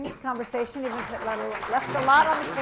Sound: applause

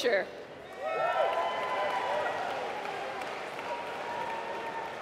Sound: applause

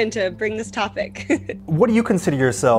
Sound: chuckles

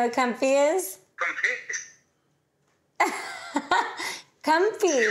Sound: Amber giggles

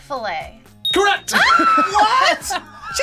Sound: buzzer rings; screams

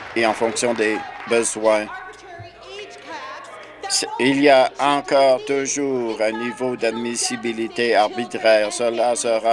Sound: applause

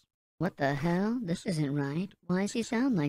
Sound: higher-pitched

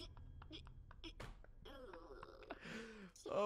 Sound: laughs

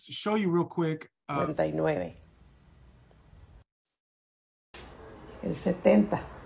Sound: non-english speech

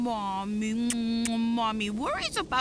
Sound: kisses

